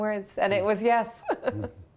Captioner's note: laughter